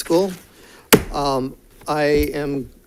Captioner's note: gavel bangs